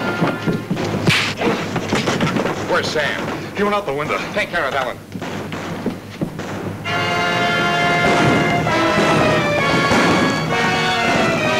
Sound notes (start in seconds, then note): 6.1 guns bang; 6.8 exciting music